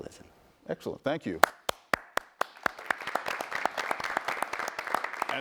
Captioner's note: audience applauds